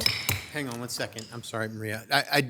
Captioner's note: gavel clanking